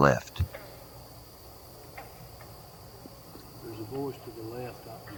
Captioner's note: katydids forest sounds